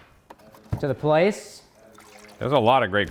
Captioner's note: plastic thudding; water pouring